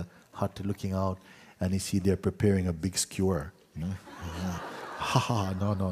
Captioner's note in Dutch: gelach